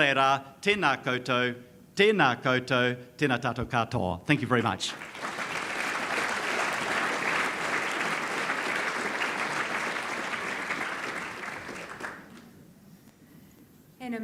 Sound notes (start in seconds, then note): 0.2 speaks foreign language; 6.5 audience applauds